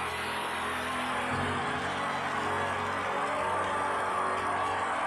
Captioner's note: fans cheering